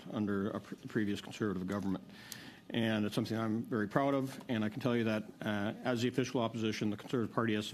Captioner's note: speaking French